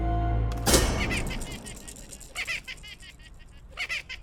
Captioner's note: clown laughs